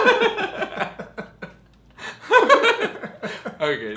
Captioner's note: chuckles